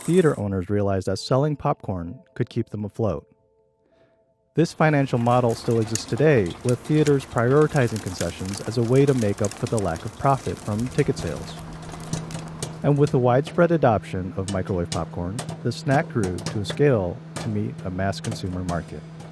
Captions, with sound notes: theater owners realized that selling popcorn could keep them afloat. This financial model still exists today, with theaters prioritizing concessions as a way to make up for the lack of profit from ticket sales. [electric humming] [popping] And with the widespread adoption of microwave popcorn, the snack grew to a scale to meet a mass consumer market.